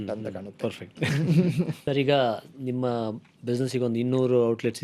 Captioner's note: laughs